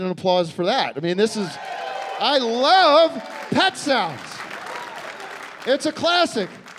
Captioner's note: cheering and applause